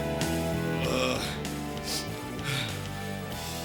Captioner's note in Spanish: gemidos